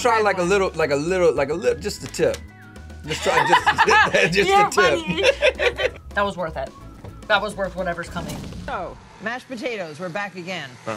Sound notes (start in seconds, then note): 3.1 laughs